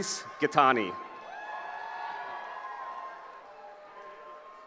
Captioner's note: cheering